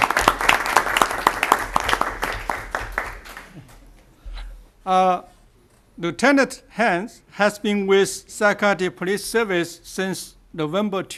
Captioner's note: applause